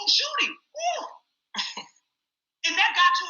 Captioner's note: laughs